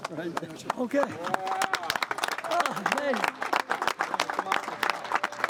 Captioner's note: crew clapping